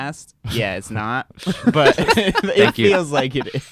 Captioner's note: laughing